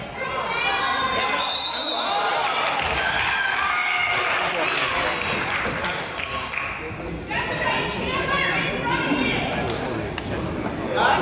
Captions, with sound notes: (whistle blows) (crowd applauds) - Jessica, you know they're in front of you!